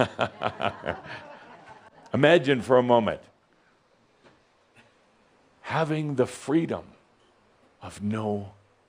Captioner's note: Adamus chuckles